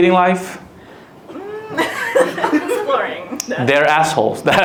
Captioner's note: laughs